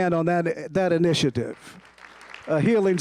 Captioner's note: applause